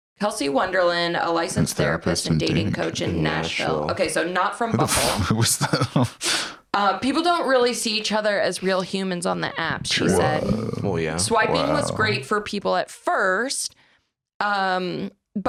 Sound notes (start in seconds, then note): 4.7 laughs